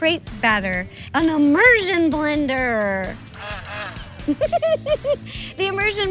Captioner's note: blender whirring